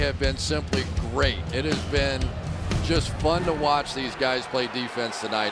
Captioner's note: crowd cheering